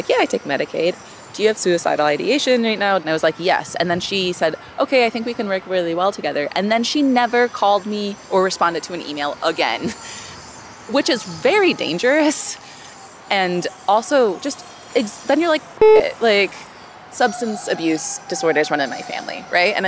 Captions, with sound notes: "Yeah, I take Medicaid. Do you have suicidal ideation right now?" And I was like, "Yes," and then she said, "Okay, I think we can work really well together." And then she never called me or responded to an email again, which is very dangerous. And also just then you're like (beep), like, substance abuse disorders run in my family, right?